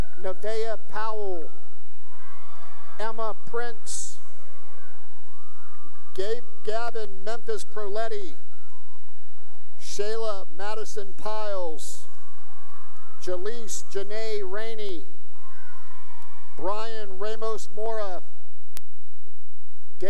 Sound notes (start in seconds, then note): 1.8 cheering; 4.6 cheering; 8.7 cheering; 12.1 cheering and applause; 15.5 cheering